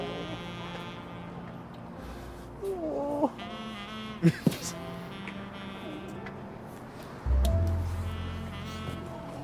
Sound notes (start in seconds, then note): 4.2 chuckles